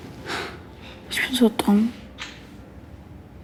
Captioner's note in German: seufzt